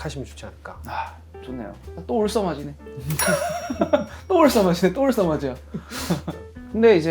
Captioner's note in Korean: 웃음